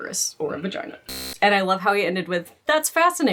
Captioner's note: buzzing